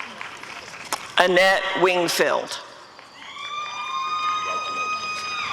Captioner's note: audience cheering